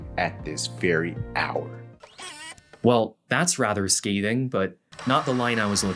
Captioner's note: machine whirrs as it pauses